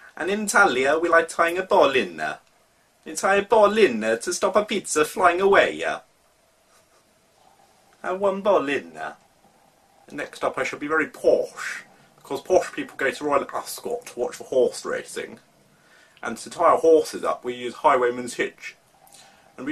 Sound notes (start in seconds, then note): 10.2 in posh accent